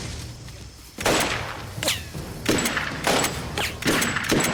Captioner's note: gunshots